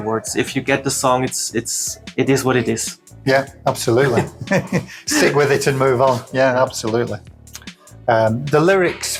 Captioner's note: laughs